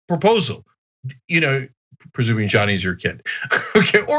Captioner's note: laugh